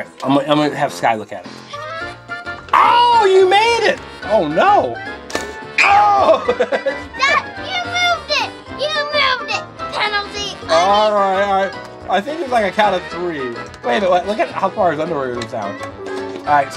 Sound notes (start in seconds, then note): 5.8 scream